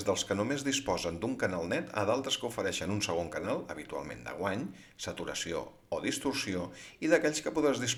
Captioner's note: distortion